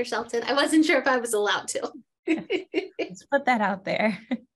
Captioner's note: laughs